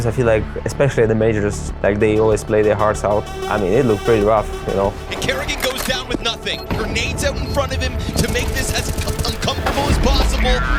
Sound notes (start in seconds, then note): 6.5 gun clicking; 7.3 game beeping; 8.2 gun firing